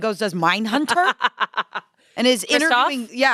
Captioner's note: laughs